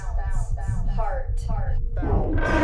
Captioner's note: echoes